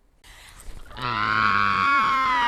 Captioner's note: crying